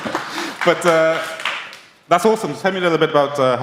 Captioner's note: applause